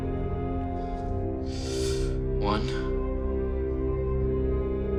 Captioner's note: deep breaths